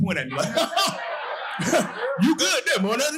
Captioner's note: audience laughing